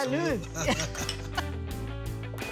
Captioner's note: giggling